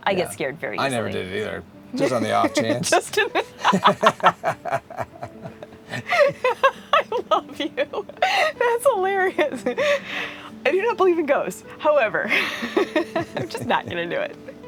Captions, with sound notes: I never did it either. Just on the off chance. Just in the, (laughing) I love you. That's hilarious. I do not believe in ghosts. However, I'm just not gonna do it.